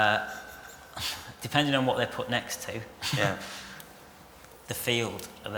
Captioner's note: laughter